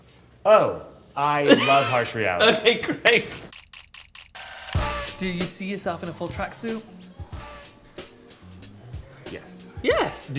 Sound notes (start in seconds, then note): 1.5 Tan laughs; 3.1 camera shudders